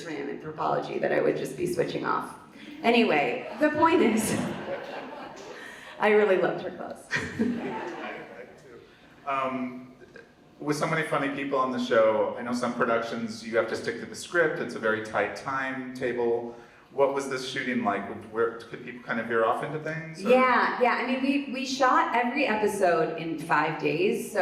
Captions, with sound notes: for anthropology that I would just be switching off. Anyway, the point is (laughs) I really loved her clothes. - (laughs) I did too. With so many funny people on the show, I know some productions you have to stick to the script. It's a very tight time table. What was this shooting like? Could people kind of veer off into things or? - Yeah, yeah, I mean we shot every episode in five days,